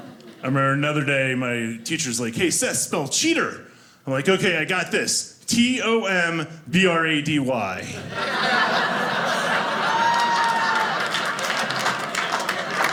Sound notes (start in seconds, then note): 7.9 audience laughing; 10.0 audience cheering